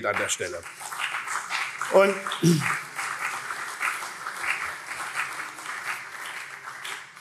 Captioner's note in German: Beifall CDU und SPD